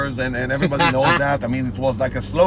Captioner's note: laughs